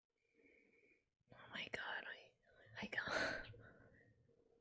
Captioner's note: whispers